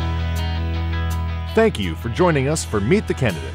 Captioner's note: voiceover